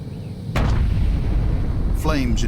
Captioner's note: sound of explosion